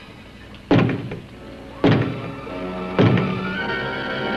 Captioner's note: three knocks